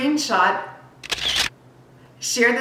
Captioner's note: camera shutter